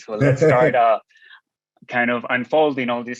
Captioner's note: laughing